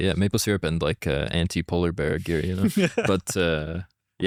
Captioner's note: laughs